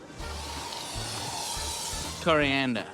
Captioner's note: grunts; spray can hisses